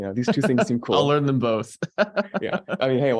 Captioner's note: laughing